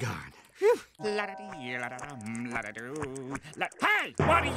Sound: humming

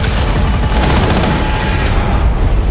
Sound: gunfire

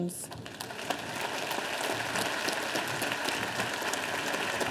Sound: audience applauding

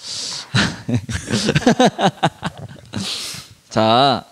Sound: laughs

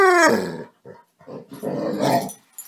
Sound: dog growls

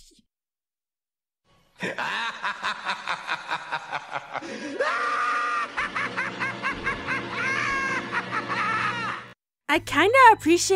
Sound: attempt at vampire hissing

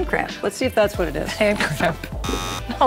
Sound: buzzer

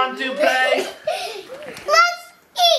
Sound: laughing

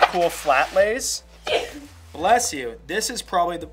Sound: sneezes

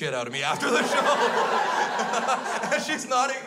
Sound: crowd laughs

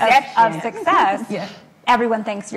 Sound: laughs

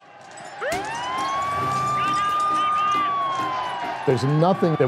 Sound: crowds yelling, sirens blaring

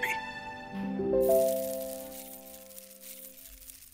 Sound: lentils falling

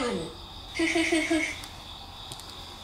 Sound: laughing

